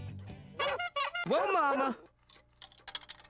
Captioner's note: bicycle horn beeps, dog barks